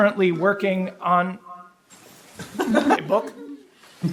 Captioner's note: people laughing